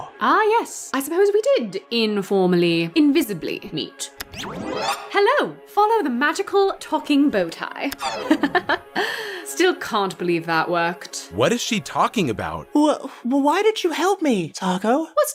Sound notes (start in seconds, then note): 8.0 taco laughs